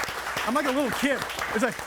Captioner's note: audience applauding